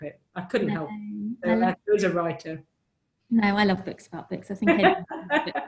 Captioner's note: laughs